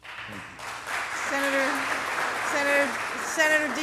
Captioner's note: applause